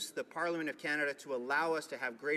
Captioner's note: speaking indigenous language